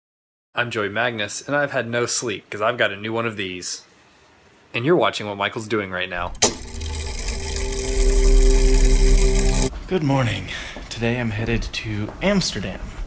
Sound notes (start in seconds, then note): 6.2 mechanism whirring